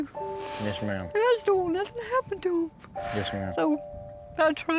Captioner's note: says tearfully